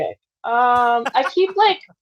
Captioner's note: laughs